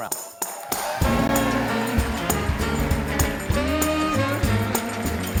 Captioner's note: applause